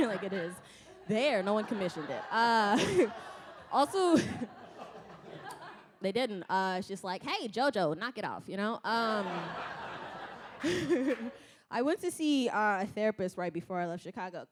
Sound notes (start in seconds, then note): 9.3 laughs